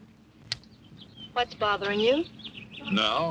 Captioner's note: birds chirping